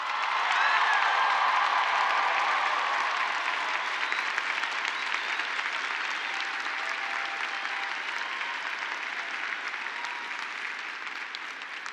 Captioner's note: applause